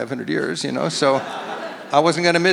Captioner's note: audience laughs